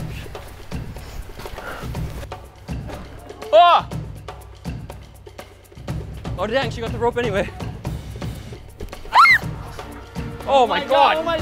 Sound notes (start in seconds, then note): 0.2 intense music; 8.0 intense music; 9.0 screams